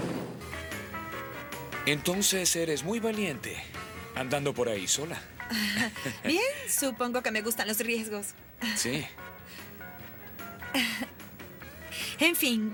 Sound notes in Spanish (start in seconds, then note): 10.6 ri nervosamente